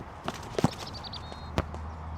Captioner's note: football thumps; birds chirping